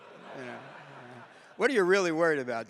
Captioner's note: audience laughing